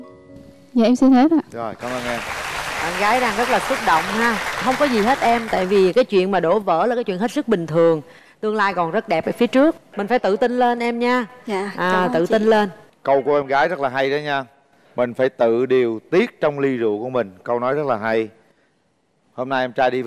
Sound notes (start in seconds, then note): 1.7 applause